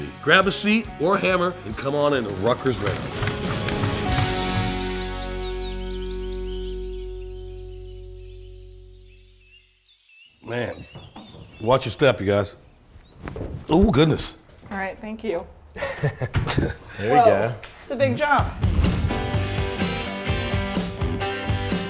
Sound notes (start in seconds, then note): 3.6 birds chirping; 3.6 upbeat music; 15.7 man laughing; 18.5 upbeat music